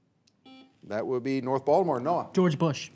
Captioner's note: buzzer beeps